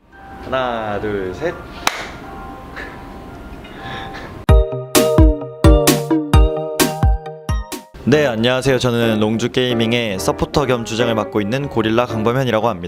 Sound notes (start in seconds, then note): 1.8 clap; 2.7 laughs